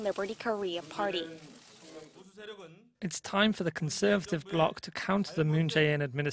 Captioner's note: Korean